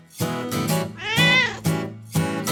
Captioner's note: meow